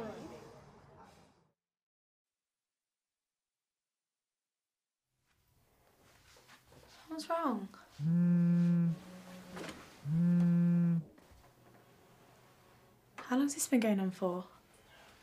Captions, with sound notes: What’s wrong? [PHONE VIBRATING] How long’s this been going on for?